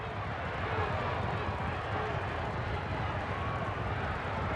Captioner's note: crowed chanting